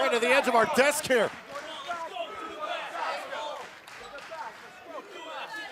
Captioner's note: fans chanting